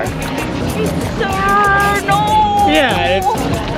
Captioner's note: terrible Aussie accent